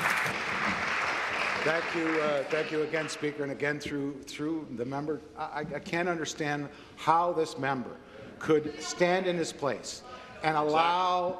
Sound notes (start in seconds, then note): 0.0 applause